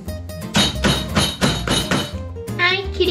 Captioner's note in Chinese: 敲敲敲